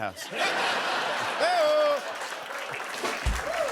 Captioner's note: laughter